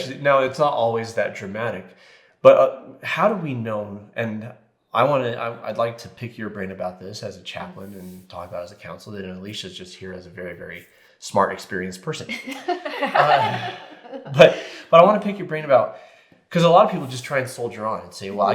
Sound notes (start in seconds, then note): 12.3 group laughing